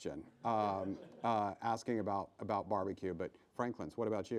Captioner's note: laughing